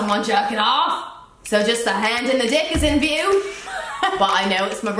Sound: both laugh

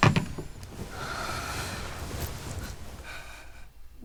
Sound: Youngwon sighing loudly

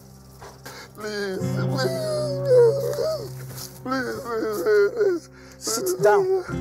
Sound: bawling

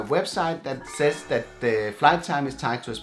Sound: screen text chimes

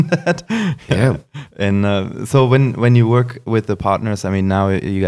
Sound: laughs

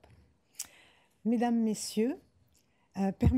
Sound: speaking french

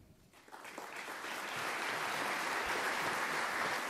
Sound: applause

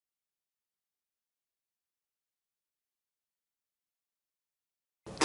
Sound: silence

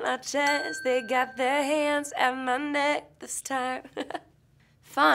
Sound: laughs

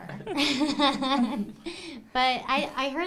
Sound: laughing

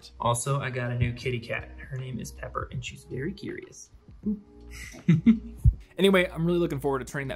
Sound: laughs

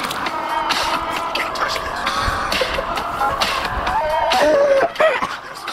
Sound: car engine revving; laughing

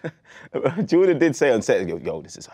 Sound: laughs

